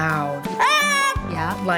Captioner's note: child yelling